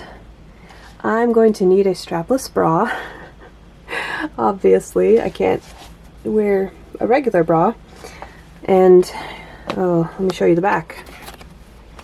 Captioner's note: laughs